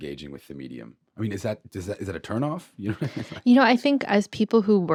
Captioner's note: chuckles